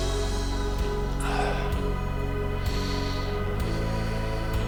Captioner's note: exhales